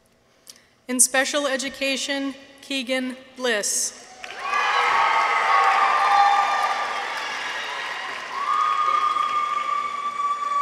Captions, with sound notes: In Special Education. Keegan Bliss. -(people cheer) -(audience applauds)